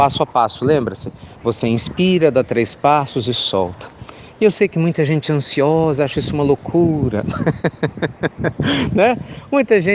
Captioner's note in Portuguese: Risos